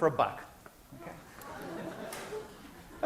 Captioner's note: laughter